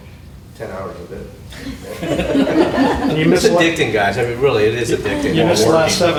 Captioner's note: laughter